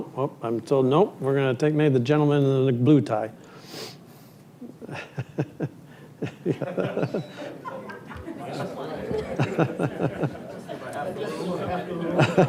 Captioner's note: laughter